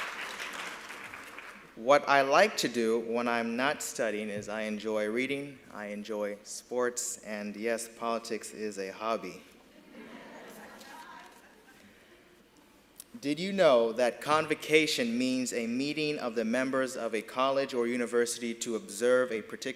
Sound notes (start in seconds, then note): 0.0 applause